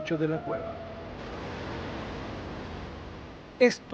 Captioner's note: crashing waves